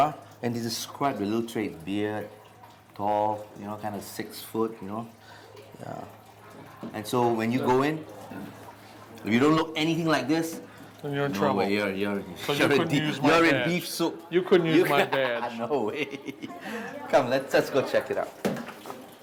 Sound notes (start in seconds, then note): 14.7 laughs